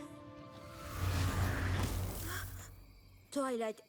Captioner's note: zap